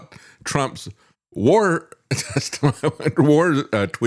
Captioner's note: laughs